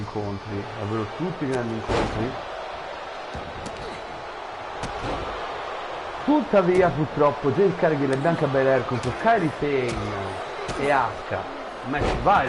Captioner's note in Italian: Applauso